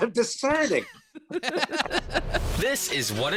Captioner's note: all laughing